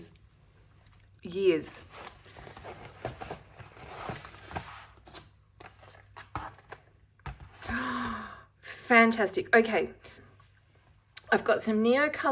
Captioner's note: gasp